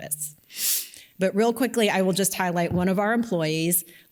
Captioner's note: inhales